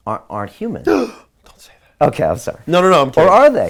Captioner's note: gasp